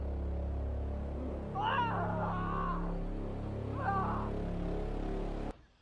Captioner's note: Schizo screams